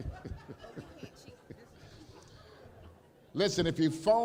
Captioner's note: laughter